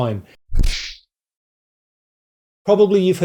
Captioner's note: kung Fu Sound